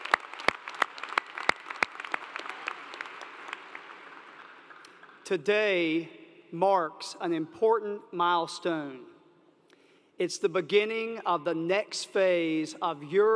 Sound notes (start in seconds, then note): 1.7 applause